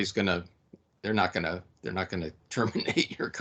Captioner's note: laughing